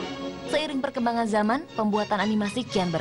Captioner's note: classical music; non-english speech